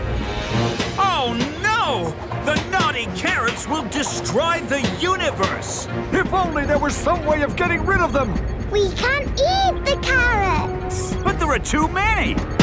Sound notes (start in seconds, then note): none